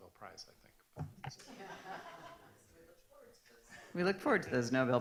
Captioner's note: laughs